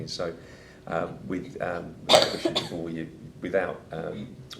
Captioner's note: coughing